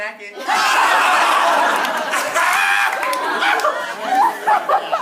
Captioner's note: laughy laughs